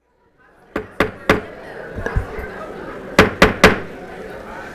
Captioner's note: gavel hitting dais